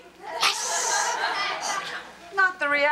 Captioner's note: audience laughs